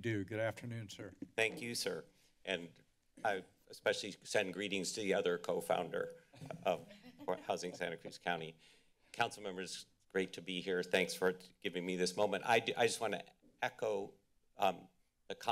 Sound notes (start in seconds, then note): 6.4 woman laughs